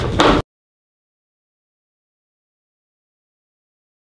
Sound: binder slamming

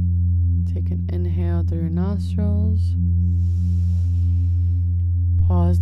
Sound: inhales deeply

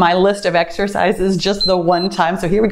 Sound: timer beeps

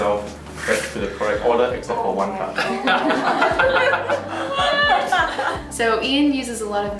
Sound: laughter

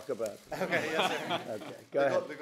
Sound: laughter

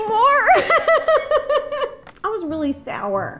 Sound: both laughing

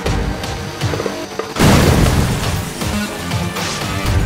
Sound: explosion, Exciting music

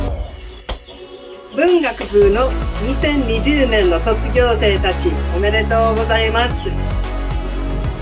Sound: speaking foreign language

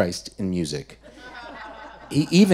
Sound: audience laughing

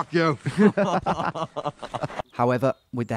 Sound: laughing

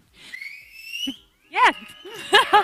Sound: audience member whistling

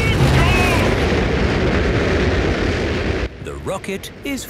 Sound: rockets blasting

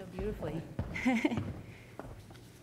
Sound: chuckling

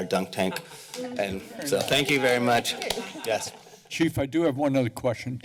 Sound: laughter; applause

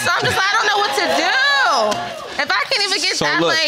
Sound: all laughing

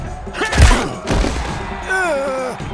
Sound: groans

